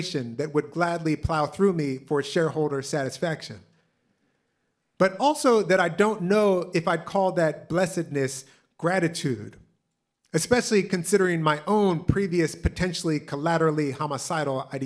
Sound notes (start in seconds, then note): none